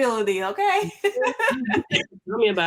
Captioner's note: laughs